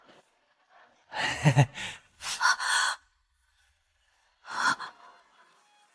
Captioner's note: heh heh, ah ah